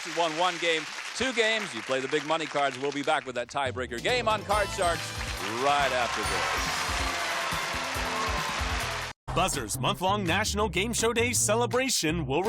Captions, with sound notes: Each contestant won one game, two games, you play the big money cards, we'll be back with that tiebreaker game on Card Sharks right after this. (applause) (theme music playing)